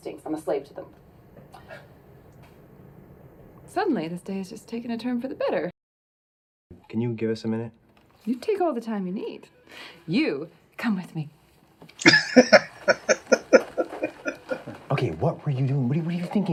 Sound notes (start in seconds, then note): 12.0 laughing